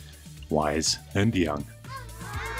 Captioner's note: children going "ahhh"